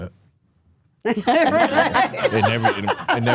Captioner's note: hosts laughing